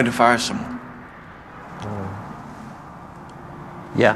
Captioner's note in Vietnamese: lẩm bẩm